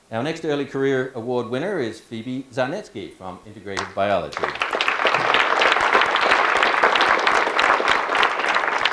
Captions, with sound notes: Our next Early Career Award winner is Phoebe Zarnetske from Integrated Biology. (audience clapping)